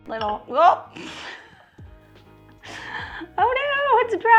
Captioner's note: laughs